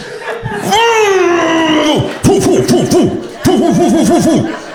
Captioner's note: sound effects